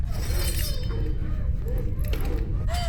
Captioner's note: metal scrapes; Abby pants